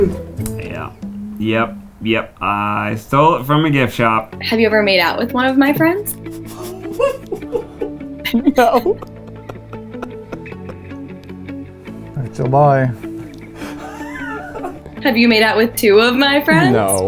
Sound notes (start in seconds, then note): 6.2 giggling